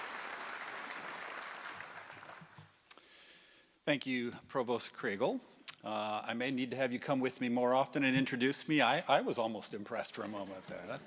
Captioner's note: applause